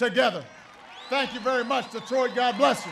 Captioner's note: applause